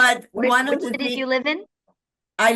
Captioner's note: laughter